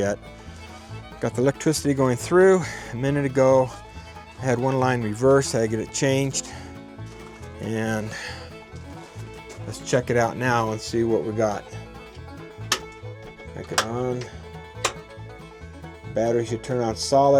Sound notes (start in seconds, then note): 12.7 click; 12.7 click, click